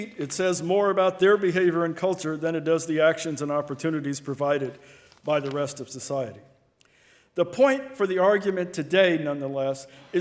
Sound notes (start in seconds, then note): none